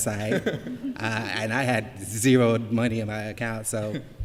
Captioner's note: laughter